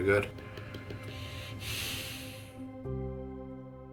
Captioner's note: tapping fingers and deep sigh